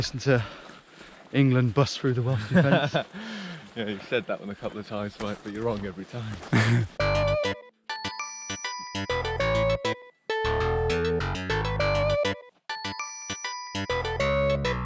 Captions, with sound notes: And then listen to England bust through the Welsh defense. - Yeah, you've said that one a couple of times, mate, but you're wrong every time. (chuckles) (retro upbeat music)